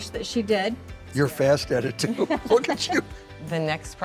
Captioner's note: laughing